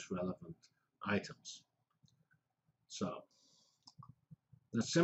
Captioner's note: pause